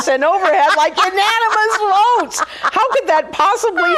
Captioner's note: laughing